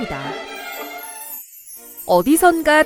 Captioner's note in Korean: 경쾌한 음악; 반짝이는 효과음